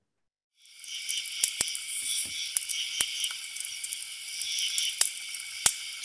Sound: crackling; crickets chirping

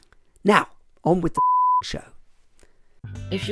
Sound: beep

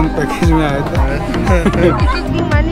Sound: laugh

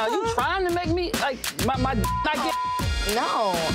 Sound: beep

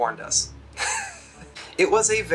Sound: laughs

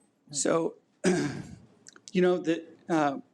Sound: clears throat

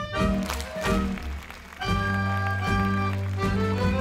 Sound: ukrainian folk music; crowd cheers

